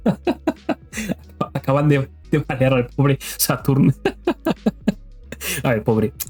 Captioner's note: laughter; laughter